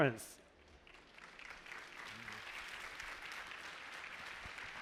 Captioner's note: applause